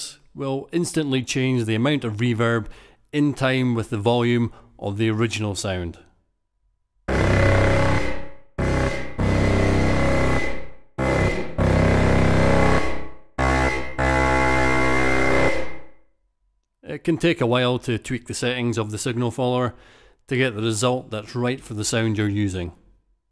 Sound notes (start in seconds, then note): 6.8 sound plays with reverb sharply adjusting to volume